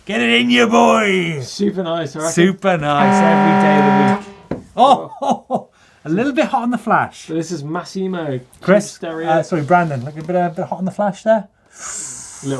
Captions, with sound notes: Get it in ya, boy. - Super nice. - Super nice. (horn blaring) Every day of the week. (laughing) A little bit hot on the flash. - This is Massimo. - Brandon, a little bit hot on the flash there.